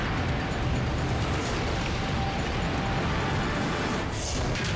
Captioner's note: avalanche rumbles; metal thuds